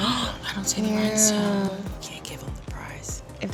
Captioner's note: gasps